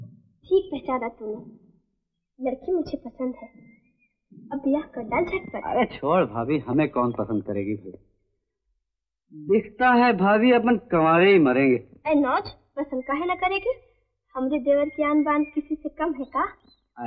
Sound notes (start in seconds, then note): none